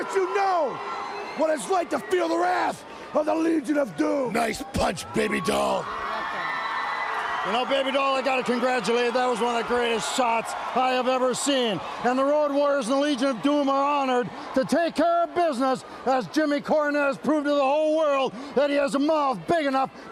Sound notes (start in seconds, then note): 9.0 crowd cheering